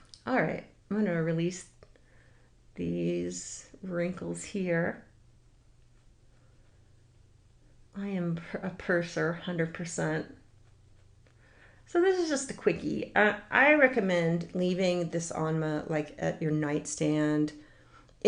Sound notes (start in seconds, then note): none